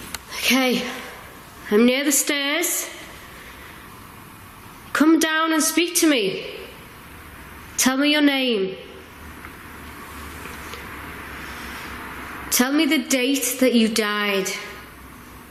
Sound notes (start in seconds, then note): none